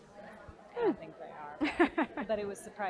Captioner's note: laugh